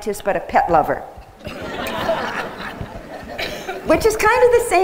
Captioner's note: laughter